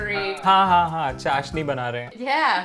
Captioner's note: speaking in Hindi